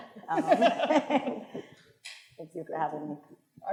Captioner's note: attendees laughing